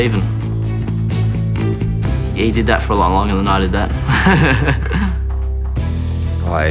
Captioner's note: laughs